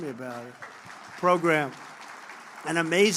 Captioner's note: applause